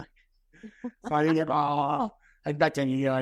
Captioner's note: both laughing